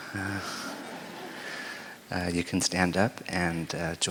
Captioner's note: laughter